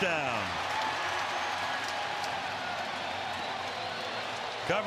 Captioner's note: cheering